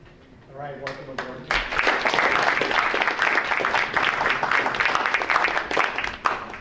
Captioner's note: audience applauding